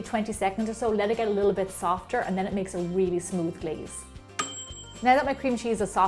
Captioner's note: ding!